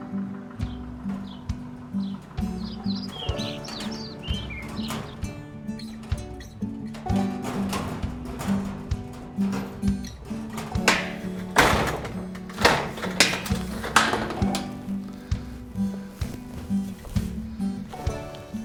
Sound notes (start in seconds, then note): 3.2 soft metal clicking; 11.7 loud metal banging